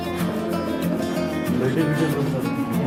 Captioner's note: people Chattering